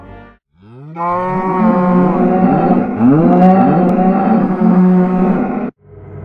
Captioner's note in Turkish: herkes i̇nek sesi̇nde bağirişir